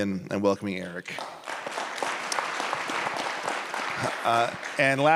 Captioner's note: applause